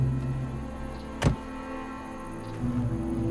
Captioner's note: door slamming; somber music